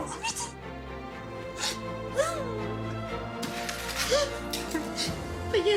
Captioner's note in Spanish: Sollozos